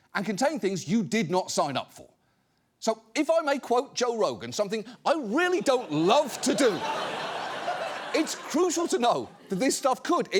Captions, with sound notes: and contain things you did not sign up for. So if I may quote Joe Rogan, something I really don't love to do... (AUDIENCE LAUGHS) ...it's crucial to know that this stuff could,